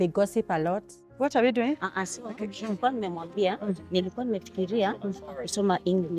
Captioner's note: swahili conversation